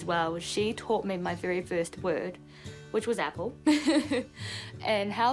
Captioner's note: laughs